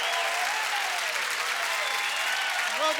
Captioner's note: cheering